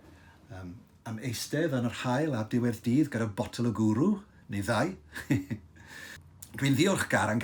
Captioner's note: he laughs